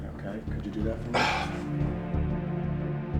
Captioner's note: scoffs